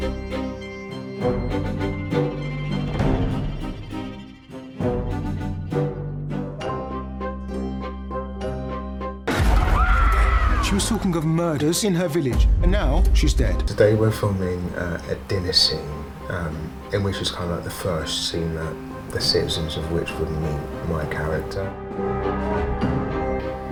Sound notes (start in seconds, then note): 0.0 dramatic string music; 9.5 screams